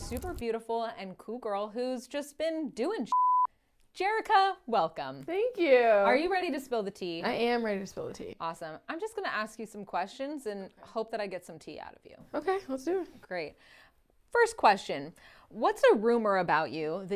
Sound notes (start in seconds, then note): 3.1 beep